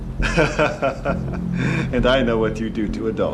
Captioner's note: laughs